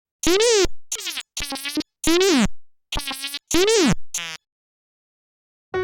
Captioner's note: C64 simulated speech